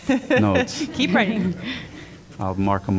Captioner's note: laughter